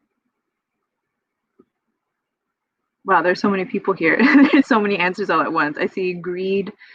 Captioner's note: laughs